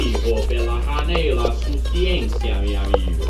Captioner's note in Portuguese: voz de Posaderas